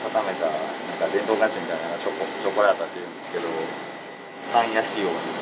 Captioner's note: Italian